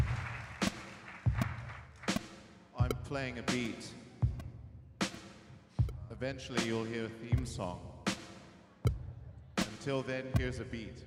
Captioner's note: applause